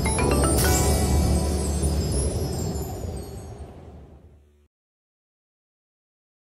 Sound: windy sounds

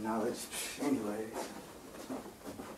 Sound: scoffs

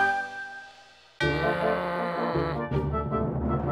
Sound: growls

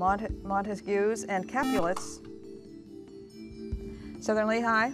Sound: buzzer

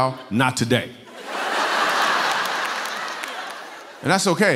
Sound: laughter

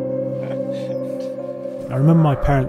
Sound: car engine revving; man chuckles

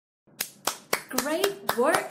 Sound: aplaude

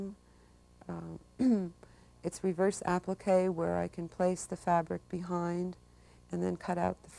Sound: cough

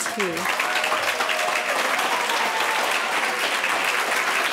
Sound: audience applauding

